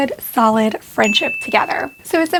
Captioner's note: bell dings